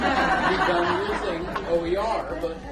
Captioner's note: laugh